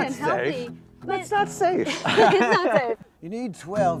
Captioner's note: laughs